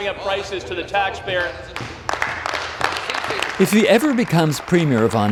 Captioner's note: applause